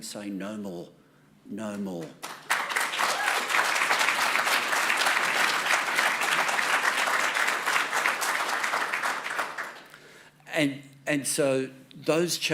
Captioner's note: applause